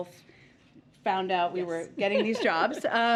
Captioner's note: laughs